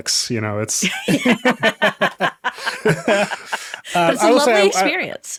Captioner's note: everyone laughing